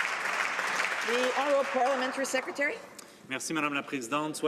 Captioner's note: some Applause